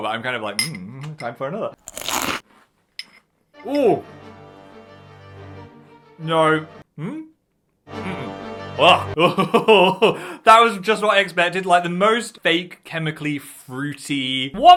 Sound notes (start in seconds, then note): 1.8 crunches on cereal; 3.6 dramatic music; 8.5 gags; 9.1 laughs dryly